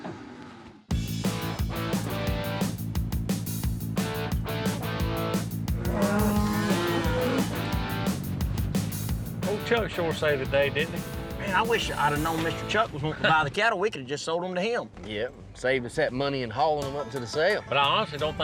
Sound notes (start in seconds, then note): 5.7 cattle moo